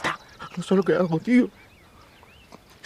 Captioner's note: crying